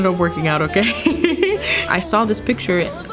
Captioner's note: laughing